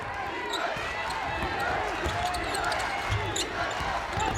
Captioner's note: crowd chants